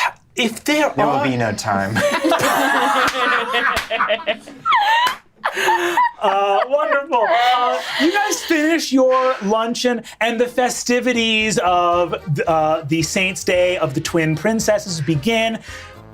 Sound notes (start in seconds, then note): 1.8 laughing